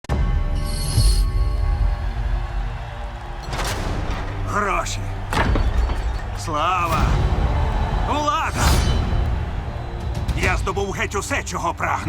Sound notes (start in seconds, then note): 0.0 tense music playing; 1.5 crowd cheering